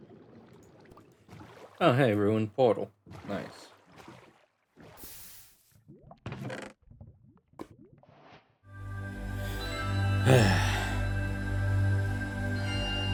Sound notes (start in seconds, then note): 10.2 sigh